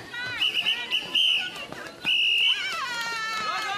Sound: whistle blowing

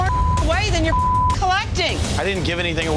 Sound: beep

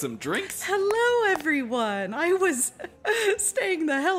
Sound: chuckles

